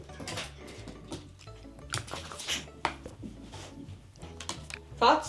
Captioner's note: creatures fighting eachother